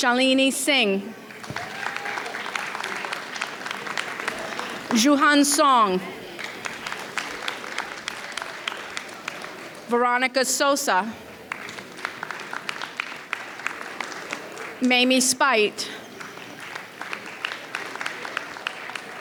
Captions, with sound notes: Shailini Singh. (audience cheers) Jiu Han Song. (audience applauds) Veronica Sosa. (audience applauds) Mamie Spite. (audience applauds)